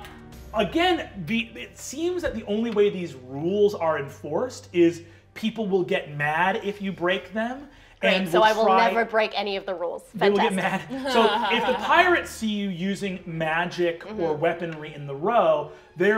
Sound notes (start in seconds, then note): 10.4 laughing